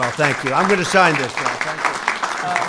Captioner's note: applause